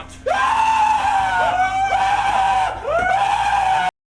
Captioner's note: high pitched scream